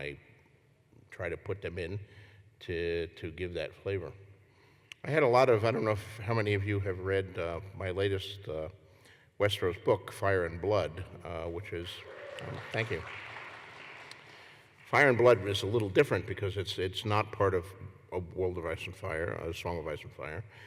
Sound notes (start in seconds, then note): 11.9 applause